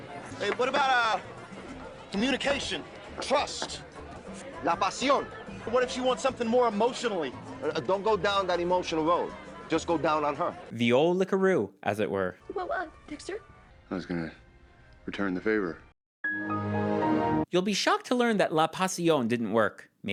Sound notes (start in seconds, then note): 16.1 Windows XP Shutdown sound